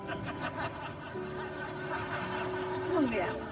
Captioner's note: audience laughing